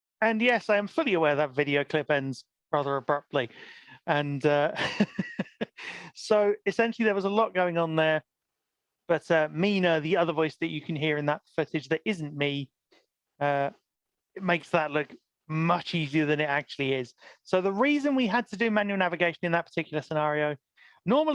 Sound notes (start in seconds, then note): 4.8 laughs